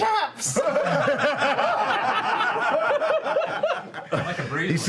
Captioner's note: laughter